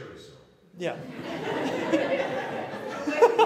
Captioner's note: laughter